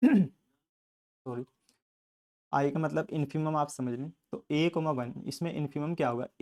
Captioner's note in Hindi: गला साफ़ करने की आवाज़